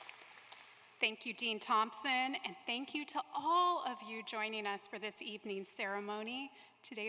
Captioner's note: applause